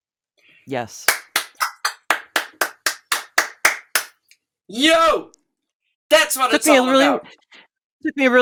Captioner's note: applauds